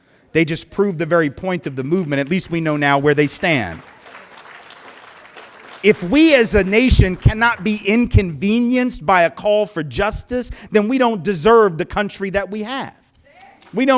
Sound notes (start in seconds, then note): 3.8 applause